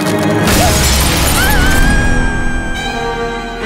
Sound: screaming

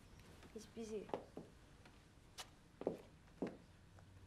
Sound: footsteps

